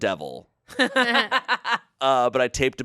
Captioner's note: everyone laughs